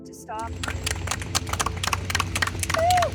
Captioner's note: applause